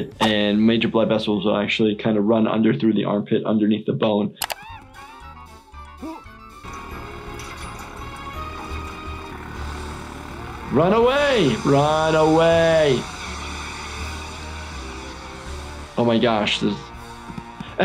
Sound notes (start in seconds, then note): 5.6 happy music; 6.0 Cuddles screaming; 6.8 liquid pouring; 9.4 plane whirring; 12.8 plane whirring; 14.8 futuristic music